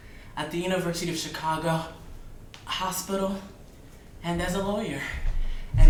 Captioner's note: none